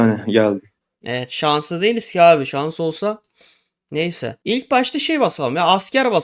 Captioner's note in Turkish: homurdanır